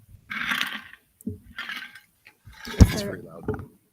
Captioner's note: ice clattering